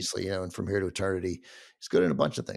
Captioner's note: none